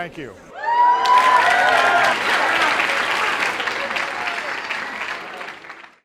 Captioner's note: cheering and applause